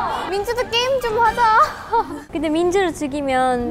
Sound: haha

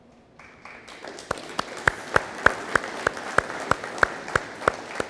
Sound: audience applauding

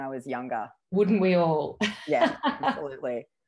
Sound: laughs

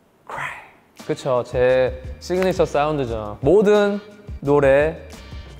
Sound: speaking in Korean

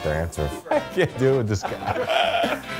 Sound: men laughing

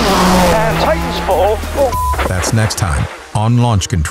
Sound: beep

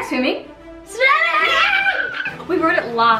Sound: cheers

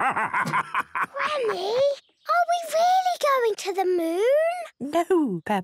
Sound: whispers

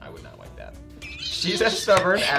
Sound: laughing

